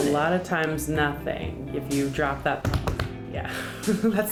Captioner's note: clients beats on the table